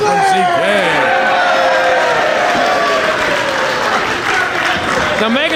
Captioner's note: audience shouting